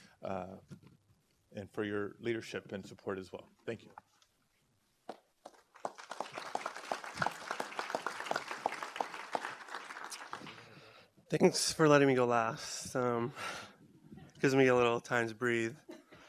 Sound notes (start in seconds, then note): 5.4 applause